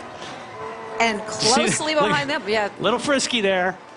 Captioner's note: speaking spanish